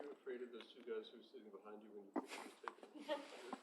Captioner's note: faintly speaking